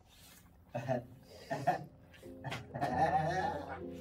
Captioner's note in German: Haha